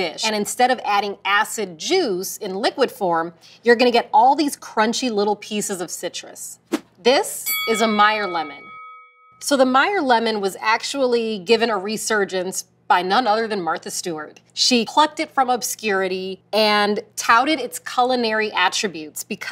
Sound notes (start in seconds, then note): 7.4 bell dings